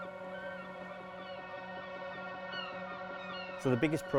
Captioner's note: gulls cawing